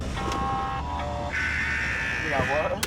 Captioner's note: radio static